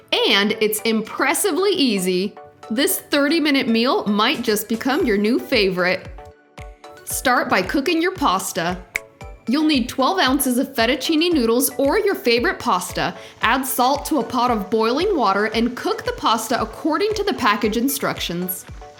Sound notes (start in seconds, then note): 8.8 snaps; 18.8 soft upbeat music